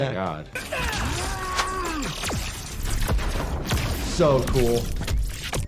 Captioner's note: Raiden grunts